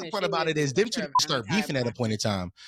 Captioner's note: beep